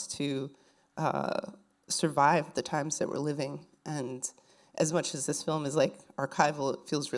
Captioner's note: none